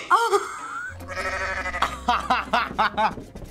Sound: laughs; goat bleats

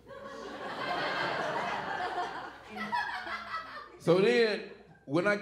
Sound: audience laughing

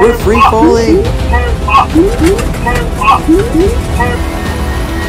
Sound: alarms Going Off

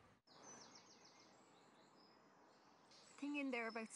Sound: birds chirping

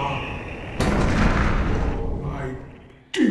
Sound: armor hitting bottom of the well

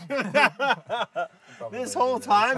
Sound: laughs

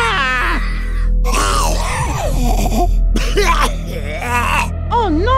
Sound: coughing

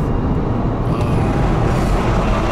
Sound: sigh

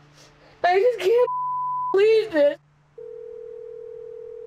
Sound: beep; phone trilling

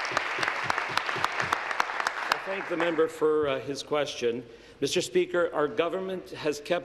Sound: applause

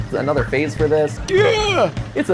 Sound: Jerma noise

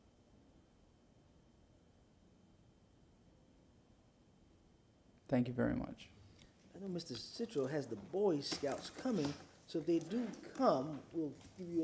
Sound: moment of silence

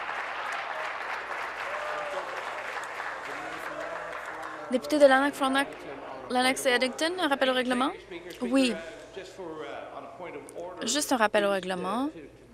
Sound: applause

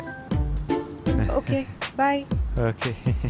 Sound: chuckles

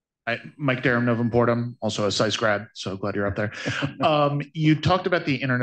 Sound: laughter

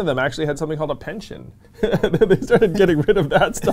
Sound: laughs

